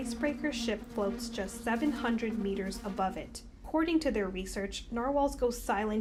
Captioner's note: ship horn